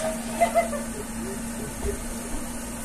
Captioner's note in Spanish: risa de macaco